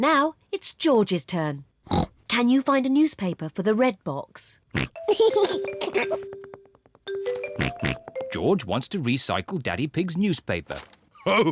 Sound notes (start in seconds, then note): 1.8 snorts; 4.8 snorts, giggles; 7.6 snorts